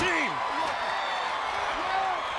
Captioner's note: crowd cheering